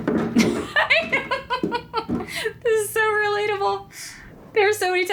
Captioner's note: laughs